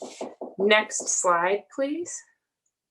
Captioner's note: door knocking